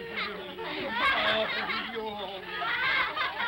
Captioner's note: children laugh